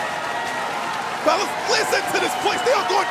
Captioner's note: cheers and applause